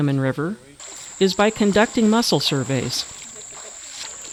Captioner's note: water splashing